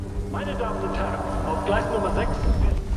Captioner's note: announcer speaking German on PA; train stops